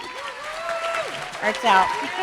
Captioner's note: applause